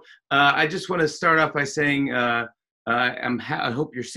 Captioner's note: none